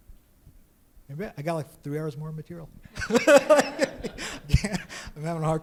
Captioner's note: laughs; audience laughs